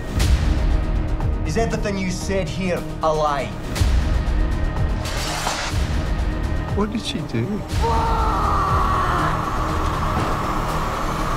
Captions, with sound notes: Is everything you said here a lie? What did she do? (man screaming)